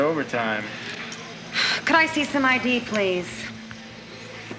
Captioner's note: sighs